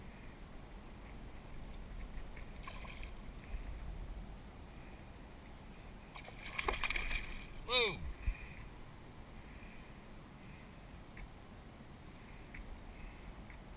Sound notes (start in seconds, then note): 2.4 splash; 6.2 splash, fish hits kayak, splash!